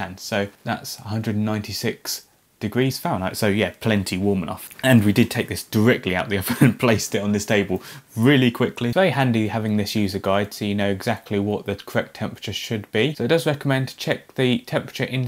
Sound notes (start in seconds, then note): 6.4 laughing